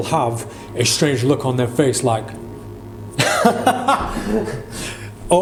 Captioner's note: laughs